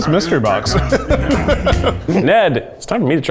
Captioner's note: laughs